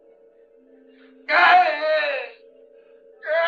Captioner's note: yelling in pain